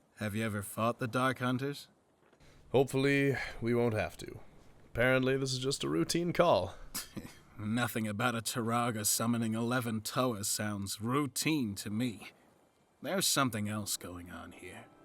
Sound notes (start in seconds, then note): 7.1 scoffs